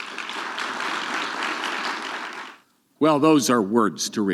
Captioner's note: audience clapping